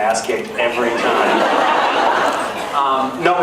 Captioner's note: laughs